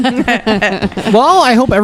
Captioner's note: laugh